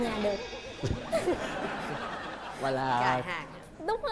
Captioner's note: laughing